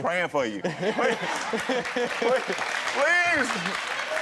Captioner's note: all laugh